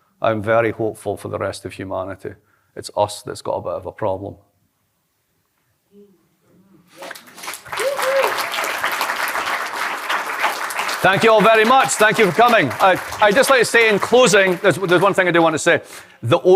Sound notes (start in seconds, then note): 7.0 applause